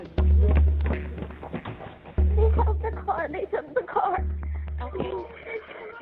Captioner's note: indistinct chatter